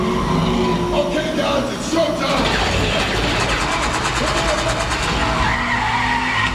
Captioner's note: gunfire blasting; tires squealing